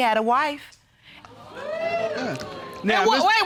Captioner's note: audience gasps